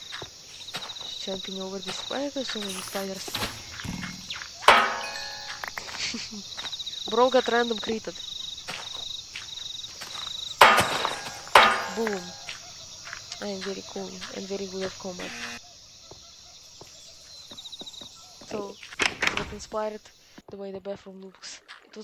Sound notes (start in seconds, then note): 4.1 bonk; 5.8 snicker; 10.6 bbonk; 10.6 bonk; 15.2 incorrect buzzer